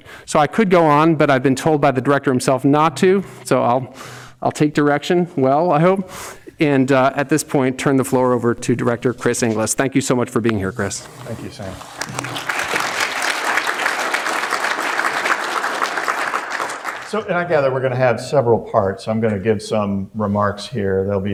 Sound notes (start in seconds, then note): 11.3 audience applauding